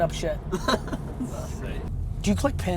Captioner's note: laughs